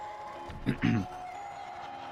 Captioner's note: clears throat